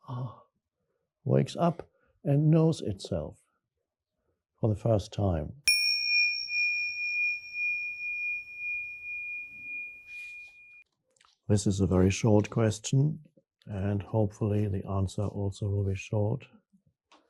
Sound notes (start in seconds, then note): 0.2 sighs; 5.7 bell chimes